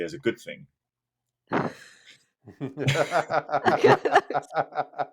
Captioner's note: laughter